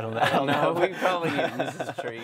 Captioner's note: laughs